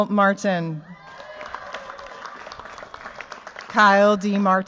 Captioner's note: cheers, applause